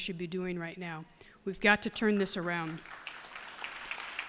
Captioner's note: applause